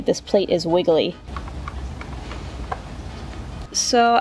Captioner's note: metal rattles